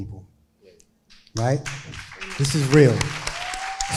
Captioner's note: crowd applauding